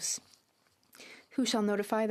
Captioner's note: speaking French